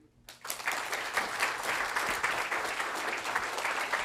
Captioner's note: applause